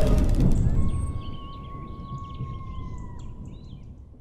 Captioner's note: coyote howls